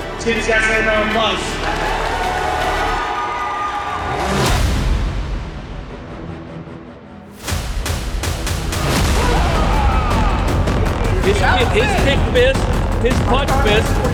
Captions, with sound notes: Let's give these guys a round of applause. (crowd cheering) (dramatic music) (crowd cheering) His kick missed, his punch missed,